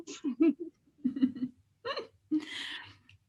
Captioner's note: both giggle